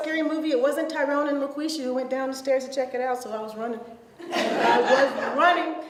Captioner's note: audience laughs